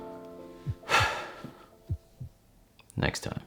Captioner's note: deep sigh